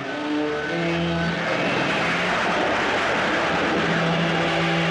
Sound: thunder Rumbling

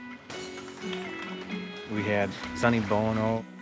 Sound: glass Shatters

